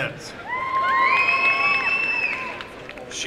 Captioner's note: applause and cheering